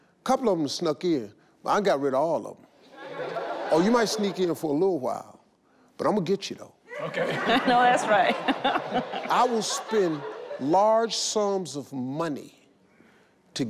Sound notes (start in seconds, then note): 2.9 audience laugh; 6.9 laughs